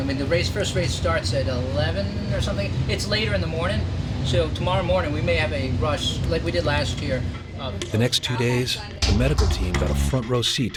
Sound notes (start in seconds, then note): 7.9 voiceover